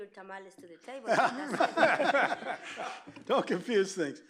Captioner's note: laughter